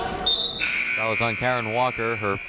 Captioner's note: whistle and buzzer blaring